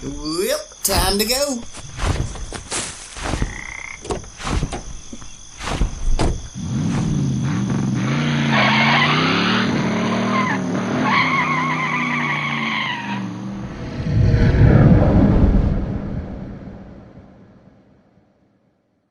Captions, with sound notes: BUBBA Welp! Time to go! [footsteps run across ground] [car door opens and closes] [engine revvs and car speeds away] [monster roars]